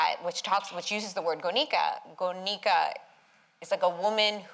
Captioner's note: non-english